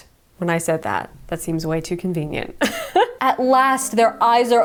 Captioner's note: laughs